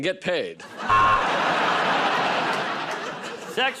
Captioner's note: buzzer